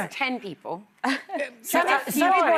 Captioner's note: laughing